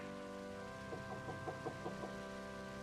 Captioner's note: knocking at door